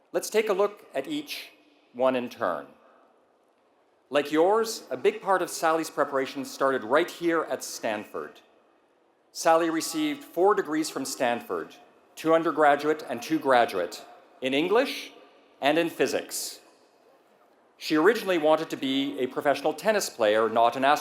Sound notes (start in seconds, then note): none